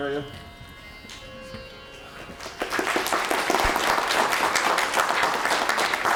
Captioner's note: applause